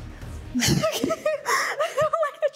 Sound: chuckles

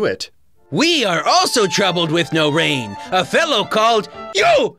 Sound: platypus voice

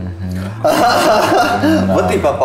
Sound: horselaughing

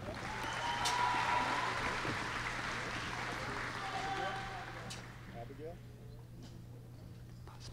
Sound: applause

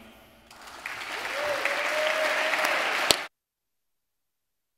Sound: audience applauds

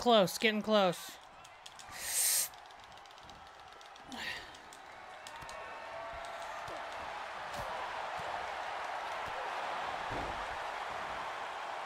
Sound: applause

